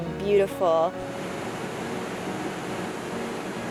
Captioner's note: rushing water